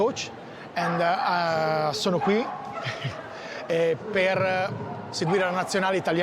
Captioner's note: speaks in Italian